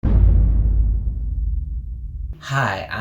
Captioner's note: dramatic boom